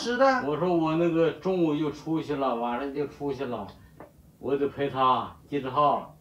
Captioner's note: men speaks in Chinese language; speaks in Chinese language